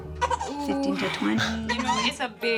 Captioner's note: cries